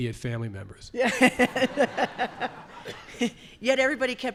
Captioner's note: laughter